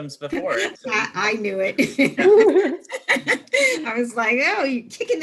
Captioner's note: laughing